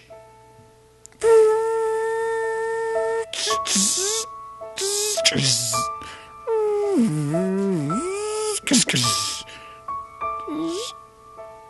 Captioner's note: robot noises